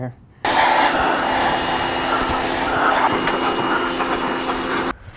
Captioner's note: power washer running